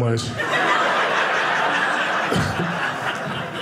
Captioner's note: audience laughing